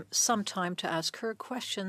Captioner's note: speaking French